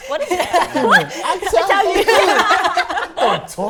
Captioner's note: laughter